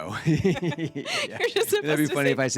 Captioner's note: laughs